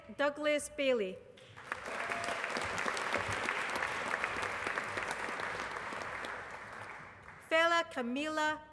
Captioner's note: applause